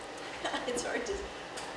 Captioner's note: laughs